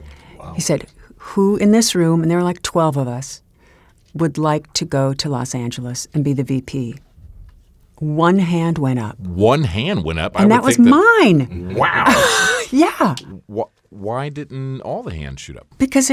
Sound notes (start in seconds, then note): 13.2 laughs